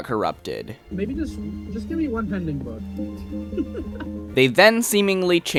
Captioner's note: laughs